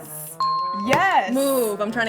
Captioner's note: dinging